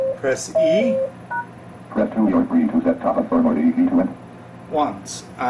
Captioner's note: machine beeps; machine voice mumbling